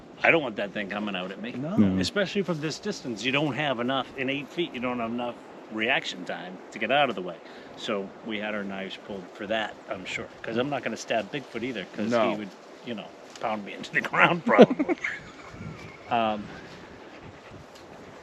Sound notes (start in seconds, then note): 13.5 laughing